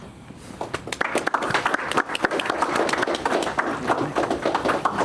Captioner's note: crowd applauding